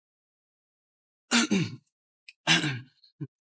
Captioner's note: cough cough